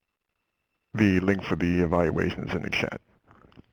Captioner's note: voiceover